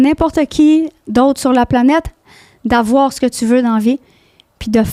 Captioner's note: in french